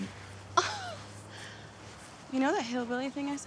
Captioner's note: Tania exclaims